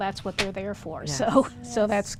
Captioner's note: laughing